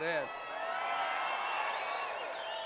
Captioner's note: crowd cheering